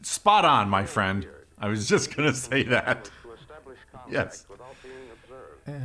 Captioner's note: laughs